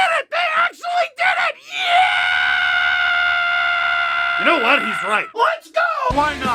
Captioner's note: screams; rock music plays throughout intro